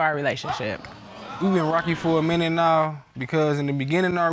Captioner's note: audience exclaiming